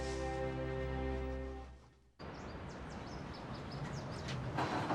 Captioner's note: birds chirping